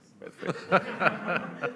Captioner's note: laughter